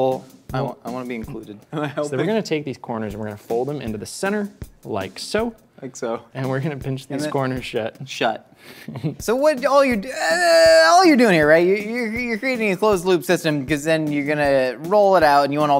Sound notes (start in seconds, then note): 8.7 laughs; 10.0 groans